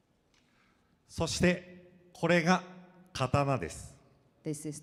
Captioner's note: speaking foreign language